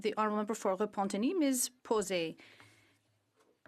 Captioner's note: speaking in French